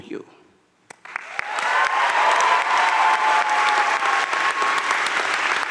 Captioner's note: audience cheering and applauding